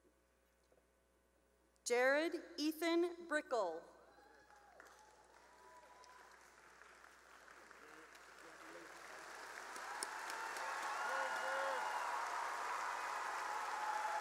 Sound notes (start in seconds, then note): 8.5 cheering